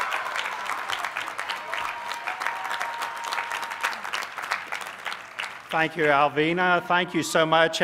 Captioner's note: applause